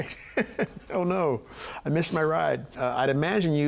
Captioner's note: chuckling